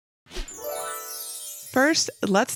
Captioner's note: graphics tinkling; graphics whooshing